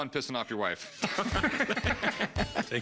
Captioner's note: laughs